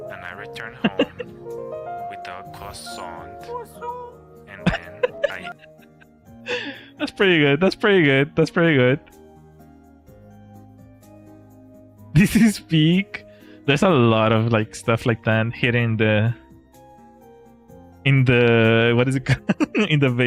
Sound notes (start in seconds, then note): 4.6 laughter